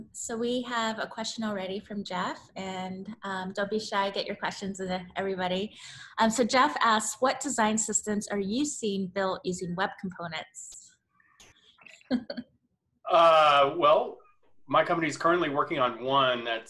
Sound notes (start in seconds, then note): 13.1 laughs